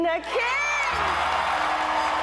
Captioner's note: cheering and applause